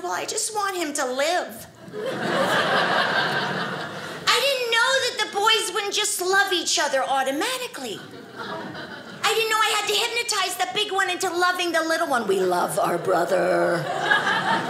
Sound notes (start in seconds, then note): 1.8 audience laughing